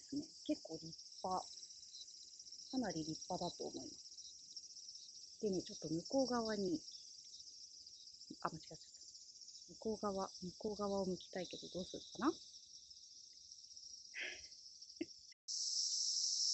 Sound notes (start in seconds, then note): 14.2 laughs